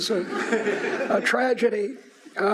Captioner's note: audience laughs